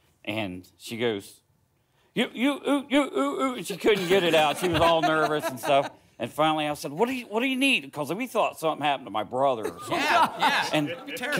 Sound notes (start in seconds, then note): 2.1 voluntarily stutters